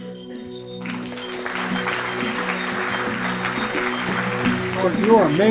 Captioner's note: clapping